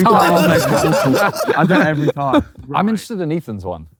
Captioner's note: group laughing